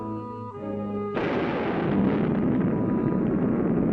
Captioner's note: loud thunderclap